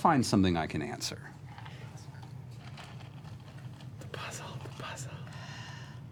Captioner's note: whispering